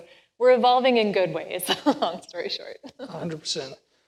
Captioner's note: laughs